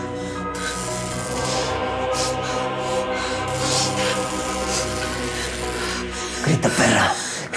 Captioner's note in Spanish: Chirridos de las descargas eléctricas